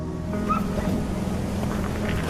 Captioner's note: dog barking